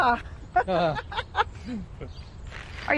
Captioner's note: chuckling